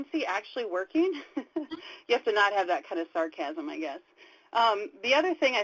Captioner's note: laughs